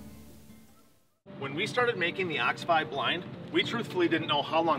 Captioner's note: wind blowing